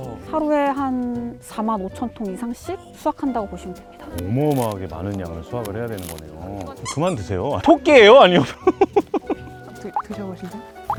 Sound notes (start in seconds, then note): 4.0 Crunch